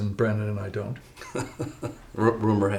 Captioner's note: braga chuckles